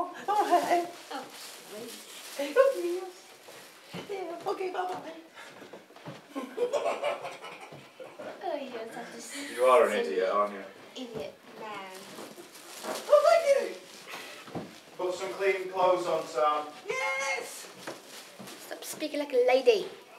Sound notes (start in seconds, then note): 0.0 funny voice; 2.1 high voice; 6.2 sniggers; 12.7 high voice; 16.7 high voice